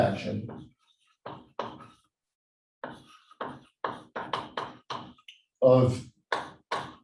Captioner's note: chalkboard tapping loudly